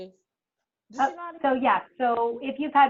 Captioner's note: woman mumbling